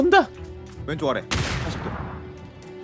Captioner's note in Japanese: どかん